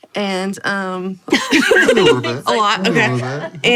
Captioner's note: group laughs